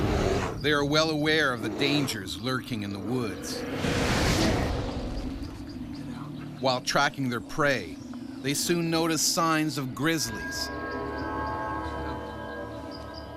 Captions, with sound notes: - [Voiceover] They are well aware of the dangers lurking in the woods. While tracking their prey, they soon notice signs of grizzlies.